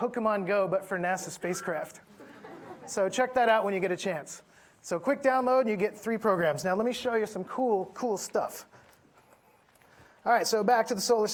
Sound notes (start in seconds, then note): 2.1 audience laughing